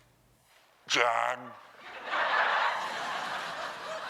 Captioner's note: laughter